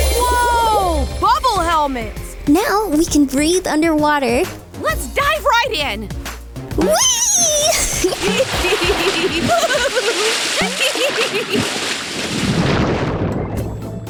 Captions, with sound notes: Whoa, bubble helmet. Now, we can breathe underwater. Let's dive right in. [LAUGHTER]